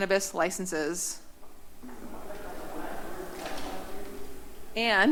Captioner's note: background chatter